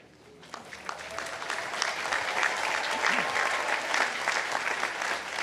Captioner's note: audience applauding